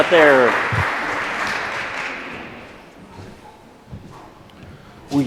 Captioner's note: audience applauds